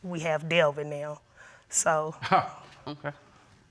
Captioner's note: chuckling